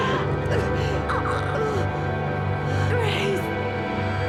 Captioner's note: screams; groans